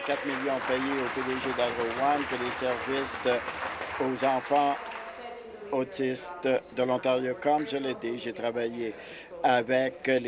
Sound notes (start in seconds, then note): 3.8 applause